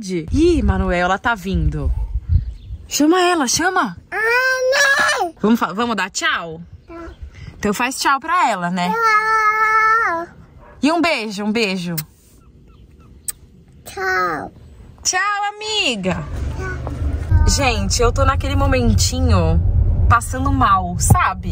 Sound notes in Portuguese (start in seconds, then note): 4.5 grita; 11.9 beijo estalado